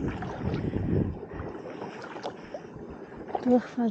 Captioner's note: paddling